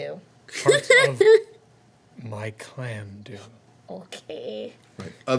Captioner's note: laughing